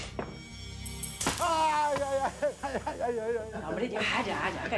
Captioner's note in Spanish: Gritos